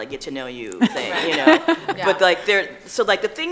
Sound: laughing

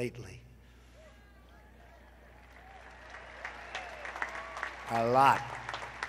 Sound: applause

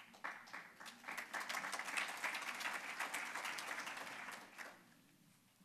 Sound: applause

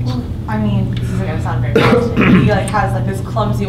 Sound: coughing

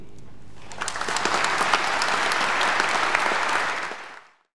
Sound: audience applaud

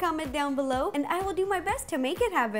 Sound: none

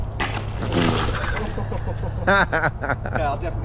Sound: bike clatters against the road; all laugh

